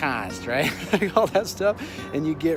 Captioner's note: laughing